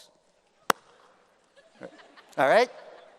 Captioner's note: claps